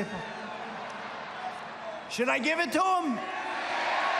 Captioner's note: laughter